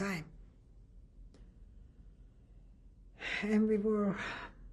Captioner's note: pauses for 3 seconds